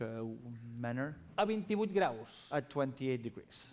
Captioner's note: non-english speech